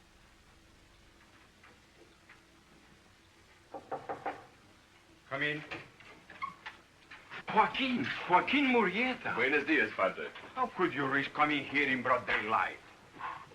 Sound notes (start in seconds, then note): 3.7 knocking at the door; 5.6 door creaks